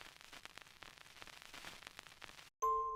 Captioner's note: film reel crackling; creepy music box plays